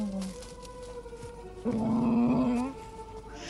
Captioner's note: dog growls